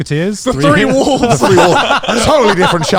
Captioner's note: laughs